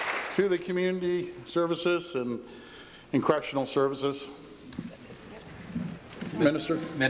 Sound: applause

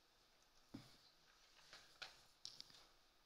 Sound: paper rustling

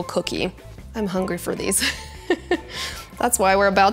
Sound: laughs

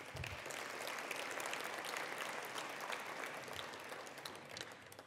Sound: attendees applauding

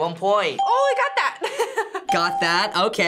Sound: chuckles; ding

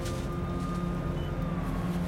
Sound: siren wailing

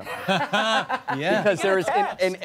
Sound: laughing

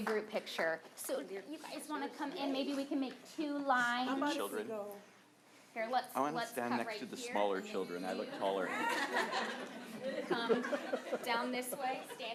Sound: applause

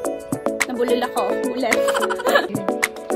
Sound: laughs again

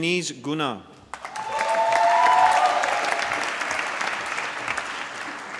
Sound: applause

